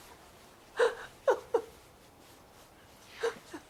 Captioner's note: crying